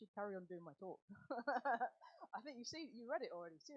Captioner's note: laughs